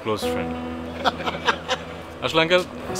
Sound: both giggles

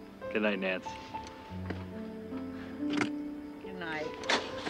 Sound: car engine revving

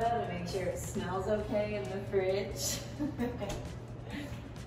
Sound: laughs

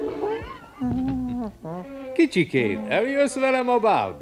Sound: wheezes

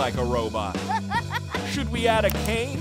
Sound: laughing

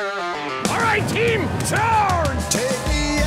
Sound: country rock music; voiceover

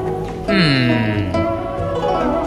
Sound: hums

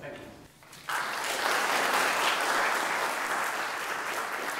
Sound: applause

